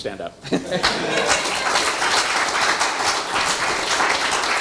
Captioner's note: audience clapping